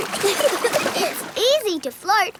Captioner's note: giggling